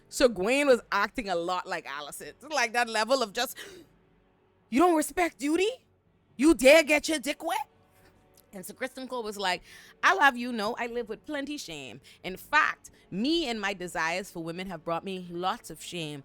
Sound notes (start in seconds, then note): none